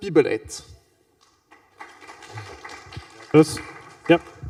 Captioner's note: applause